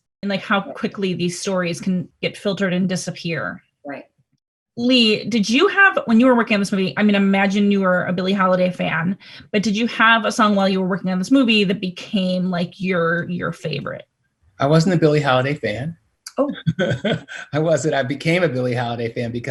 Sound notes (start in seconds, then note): 16.6 laughter